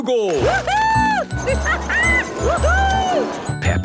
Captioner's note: laughing